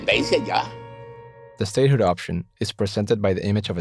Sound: voiceover

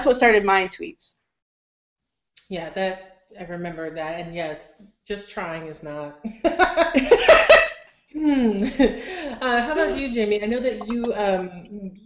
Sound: all laugh

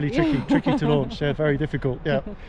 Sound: laughing

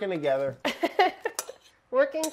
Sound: laughing

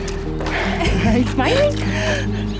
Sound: laughter

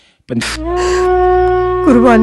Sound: weeping

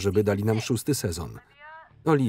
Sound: woman on phone

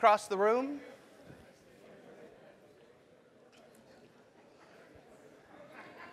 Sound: laugh

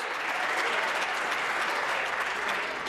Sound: applause

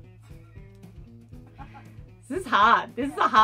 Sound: laughter

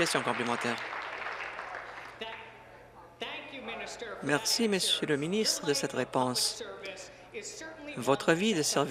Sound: applause

